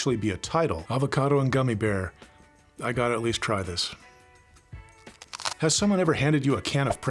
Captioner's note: crunch